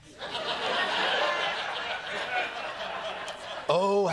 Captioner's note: laughter